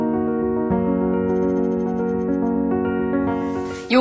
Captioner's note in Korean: 다이얼 소리